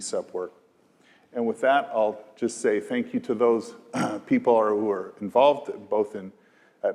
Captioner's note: cough